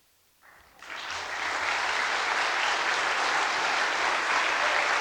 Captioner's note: applause